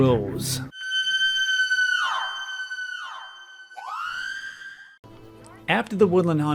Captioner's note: woman Screaming